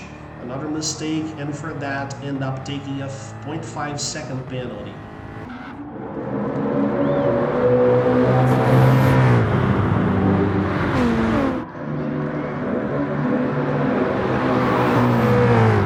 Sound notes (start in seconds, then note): 5.2 engines revving, cars noises